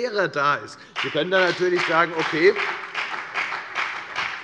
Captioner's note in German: Beifall bei der FDP und bei Abgeordneten der SPD